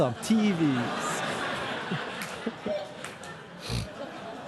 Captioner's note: audience laughing